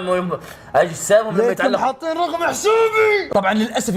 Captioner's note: shouts